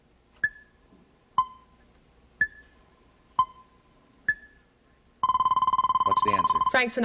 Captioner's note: timer dinging